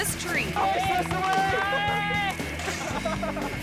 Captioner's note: all shouting